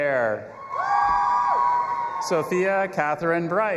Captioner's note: audience applauding and cheering